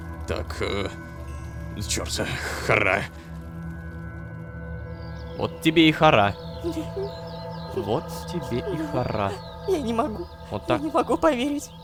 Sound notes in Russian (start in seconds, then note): 6.5 Звук плача